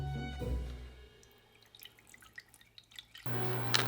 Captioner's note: water pouring